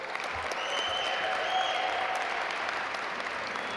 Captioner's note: audience applaud